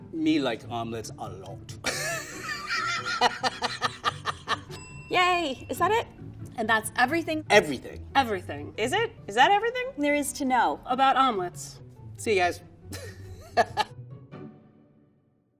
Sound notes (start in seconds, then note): 1.9 laughing; 4.7 bell rings